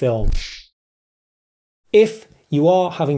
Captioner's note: kung Fu Sound